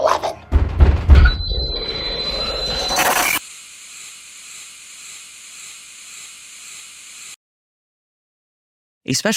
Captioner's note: pounding knock